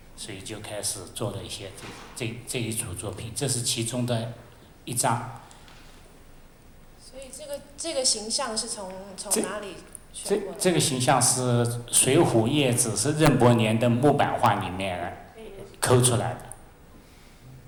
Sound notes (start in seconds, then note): 7.7 Mandarin